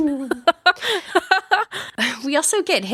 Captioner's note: laughing